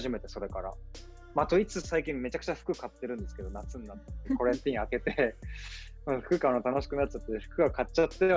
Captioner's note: laughs